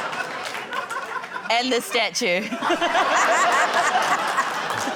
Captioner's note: laughter, applause